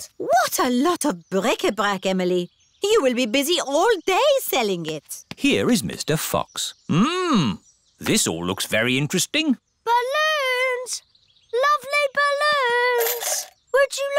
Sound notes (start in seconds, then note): none